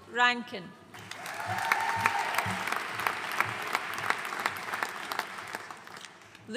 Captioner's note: audience cheering and applauding